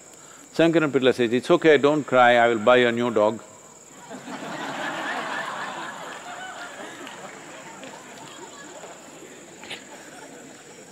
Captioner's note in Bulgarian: смях